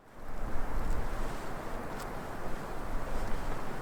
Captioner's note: wind